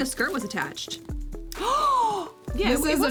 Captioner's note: gasps